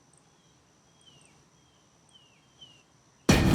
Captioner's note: birds chirping; dramatic music